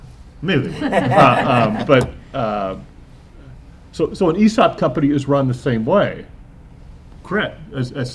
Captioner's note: laughter